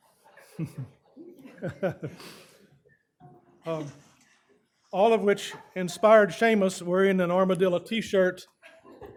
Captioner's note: chuckles